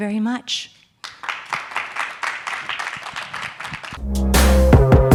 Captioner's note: attendees applauding; energetic music